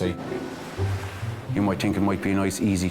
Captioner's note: waves crashing